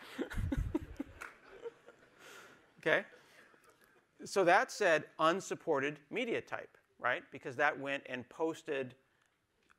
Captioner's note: laughter